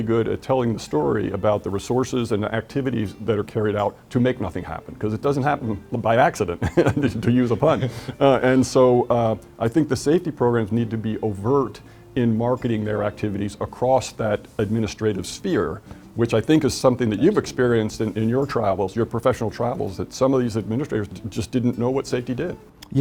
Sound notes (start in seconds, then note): 6.6 laughs